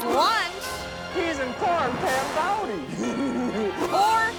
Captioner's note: laughs